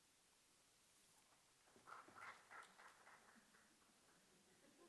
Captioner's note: applause